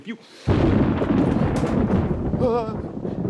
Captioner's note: thunder; gasps